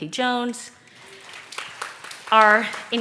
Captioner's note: audience claps